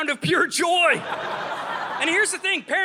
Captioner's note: audience laughing